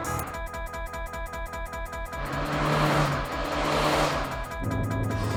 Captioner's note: the CD in the player starts malfunctioning